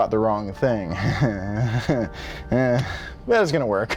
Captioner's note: chuckling